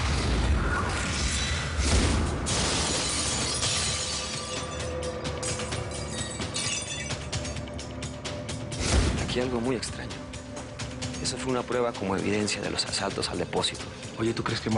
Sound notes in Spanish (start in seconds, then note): 2.4 Estrépito de vidrios rotos